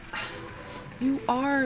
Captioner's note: Angelica scoffs